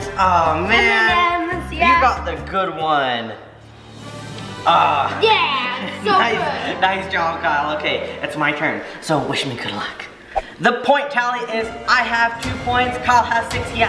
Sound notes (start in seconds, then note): 3.4 groans